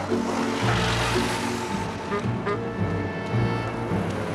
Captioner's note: klakson klakson